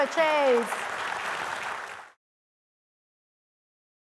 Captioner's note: audience applauding